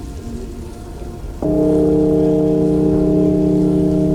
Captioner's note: church bells ring